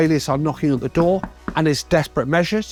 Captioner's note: knocking on door